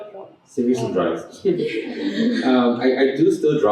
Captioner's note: laughter